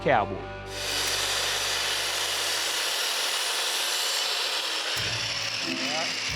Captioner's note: saw cutting